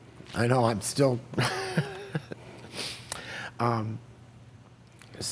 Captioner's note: laughs